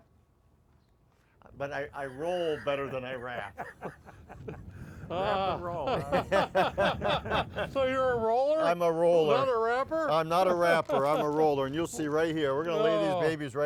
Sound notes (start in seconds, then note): 1.8 laughing; 6.0 all laughing